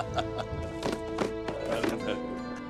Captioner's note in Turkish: Gülme sesleri